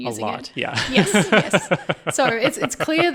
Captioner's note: laughing